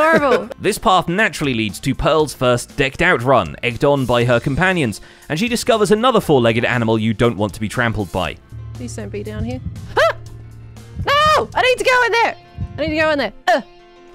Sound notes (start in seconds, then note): 8.9 heart beating